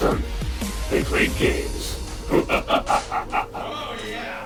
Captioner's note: laughs